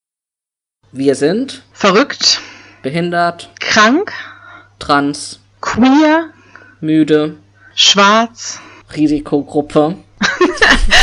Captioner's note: both laugh